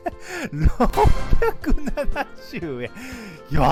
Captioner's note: laughs